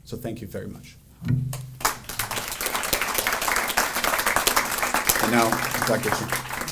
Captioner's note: audience applauding